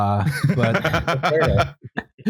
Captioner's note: laughter